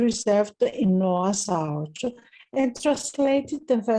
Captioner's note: speaking in foreign language